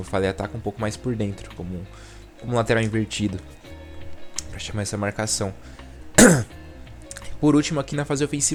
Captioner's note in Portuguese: limpando a garganta